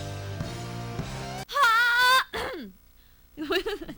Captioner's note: cough